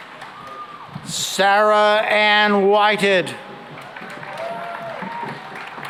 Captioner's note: cheering and applause